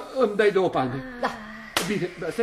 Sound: she slaps him

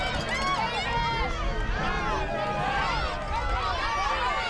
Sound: crowd cheering

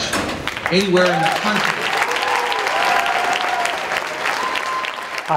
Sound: crowd Cheers and Applauds

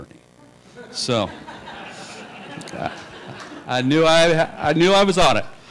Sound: laughter

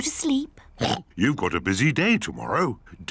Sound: oinks

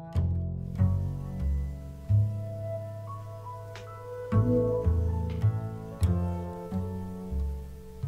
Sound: incoming call ringing

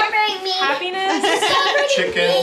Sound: laughs

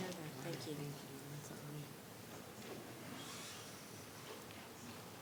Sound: speaking faintly

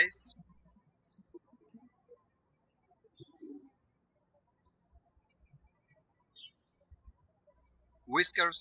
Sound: birds chirping

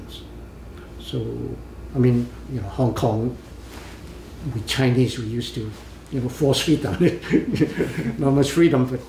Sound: laughs

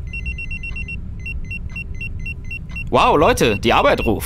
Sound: pager sound

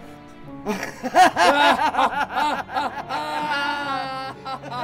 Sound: laughter

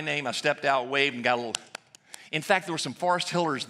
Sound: claps hands

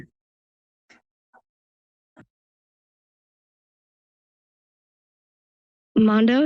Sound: silence

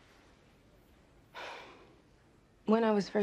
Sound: sighs

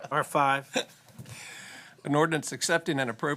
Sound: laughter

